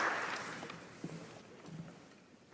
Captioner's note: applause